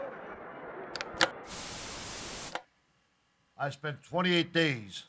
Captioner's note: television clicks; static crackling